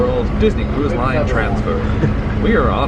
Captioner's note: laughs